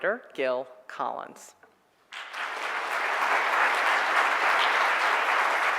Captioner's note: audience applauds